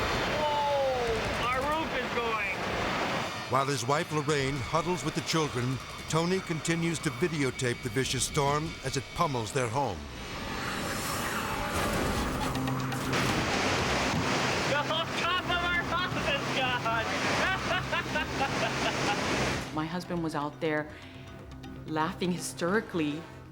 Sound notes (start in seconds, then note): 10.2 wind blowing; 10.7 dramatic music; 18.5 laughing